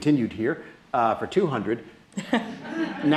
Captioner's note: laughter